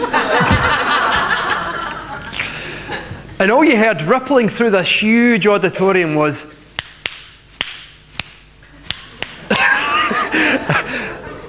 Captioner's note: 2-fingered claps